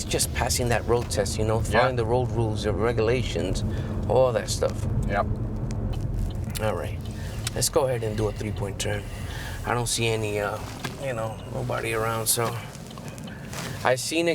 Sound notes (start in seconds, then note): 5.9 indicator blinking